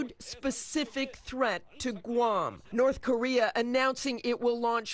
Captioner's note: speaking a foreign language